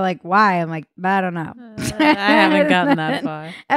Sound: laughing

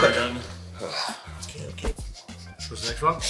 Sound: sighs

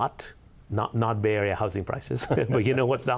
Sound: laughs

